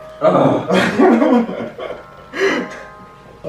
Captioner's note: laughs